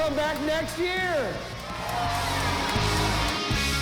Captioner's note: crowd cheering